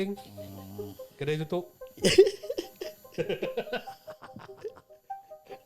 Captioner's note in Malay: ketawa